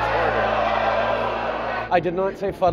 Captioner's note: oohing